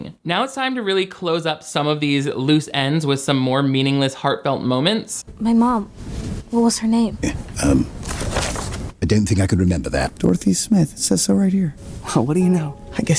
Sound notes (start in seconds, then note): 7.8 papers rustling